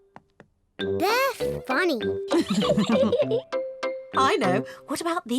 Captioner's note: laughs